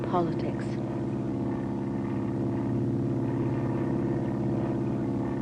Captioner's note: airplane flying